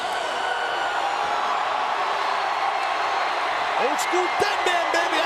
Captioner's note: audience cheering